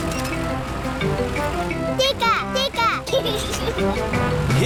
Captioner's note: giggles